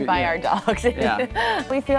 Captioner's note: chuckles